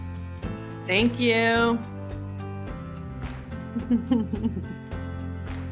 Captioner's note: giggles as music fades